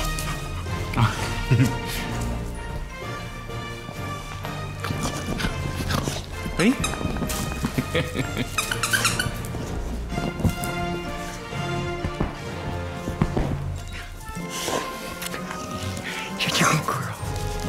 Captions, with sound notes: [Laughter] Hey. [Squeaky toy] [Laughter] [Squeaky toy] Such a good girl.